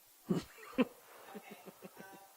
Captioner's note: chuckles